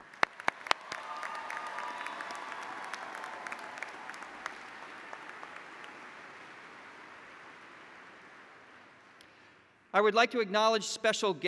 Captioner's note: applause